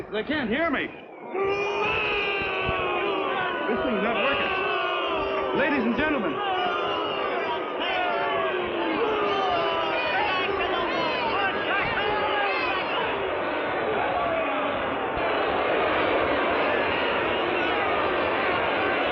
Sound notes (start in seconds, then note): 2.4 yelling; 7.8 booing; 7.8 yelling